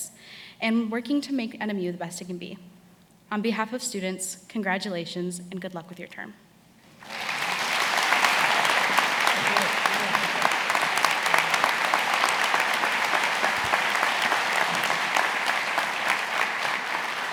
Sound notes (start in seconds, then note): 7.5 attendees applauding